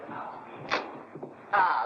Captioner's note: door opens